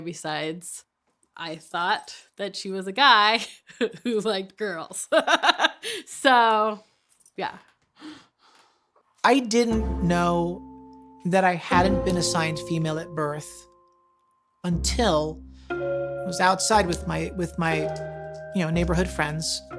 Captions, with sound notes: besides I thought that she was a guy who liked girls. (laughing) So, yeah. - I didn't know that I hadn't been assigned female at birth until I was outside with my neighborhood friends,